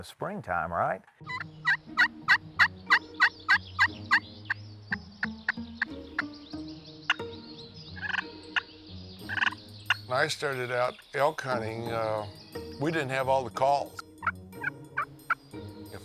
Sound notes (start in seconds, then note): 1.6 mock hunting calls; 7.4 turkey chirps; 14.6 mock hunting calls